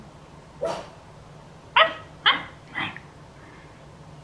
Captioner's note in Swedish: imiterar när han skäller